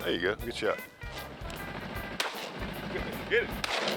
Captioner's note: chatter; gun shot